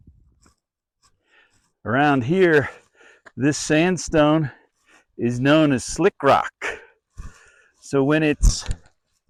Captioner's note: light wind noise, footsteps crunching